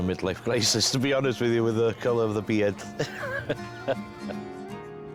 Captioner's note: laughs